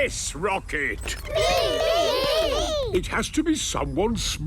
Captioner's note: calling out in turn